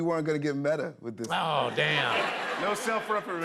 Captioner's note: laughter